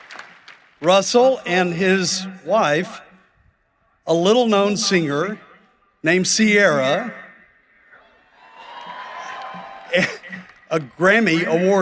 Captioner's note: applause